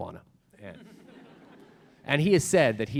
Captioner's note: audience laughs